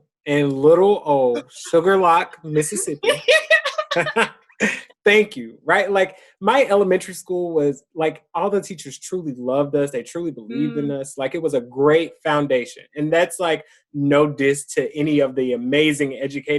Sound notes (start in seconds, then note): 2.6 both laugh